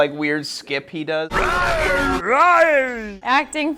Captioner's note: imitates growl; dinosaur-like growl